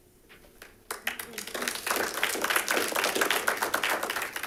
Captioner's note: audience clapping